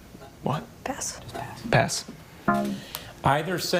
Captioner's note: tone clunks